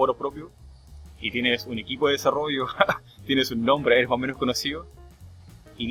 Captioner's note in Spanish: risas